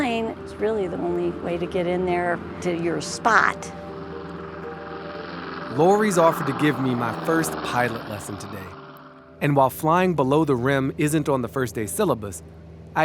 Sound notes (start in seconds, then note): 3.7 plane engine roaring